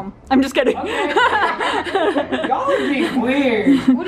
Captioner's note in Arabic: يضحك